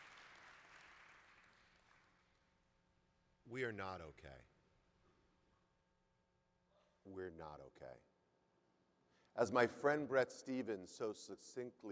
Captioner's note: applause